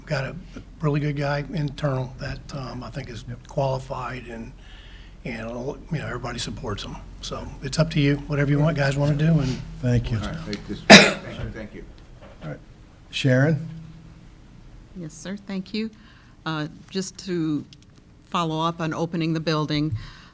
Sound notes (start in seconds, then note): 11.3 people murmuring